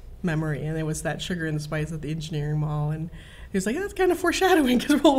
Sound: none

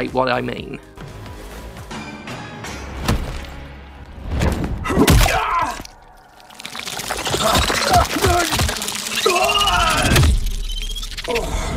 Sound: pained death noises

